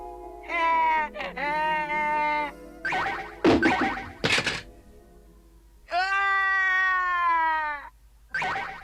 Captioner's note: sobs